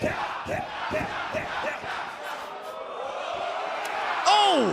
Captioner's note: fans chanting